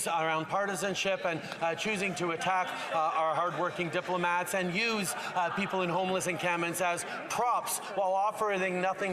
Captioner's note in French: voix de l'interprète